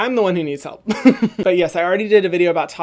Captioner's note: laughs